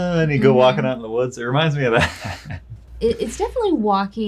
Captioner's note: laughs